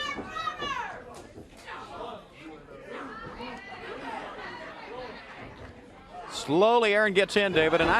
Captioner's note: crowd chatter